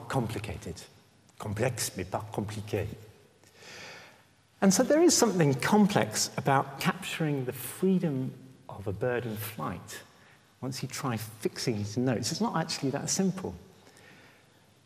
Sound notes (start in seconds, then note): 0.8 French